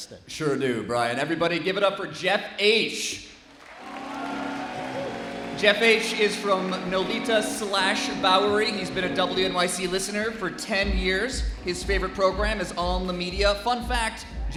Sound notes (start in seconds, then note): 5.5 applause